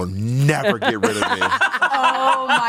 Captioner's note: everyone laughs